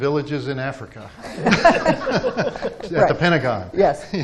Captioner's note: everyone laughing